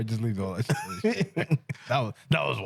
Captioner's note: laughing